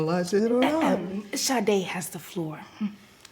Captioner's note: naomi clearing throat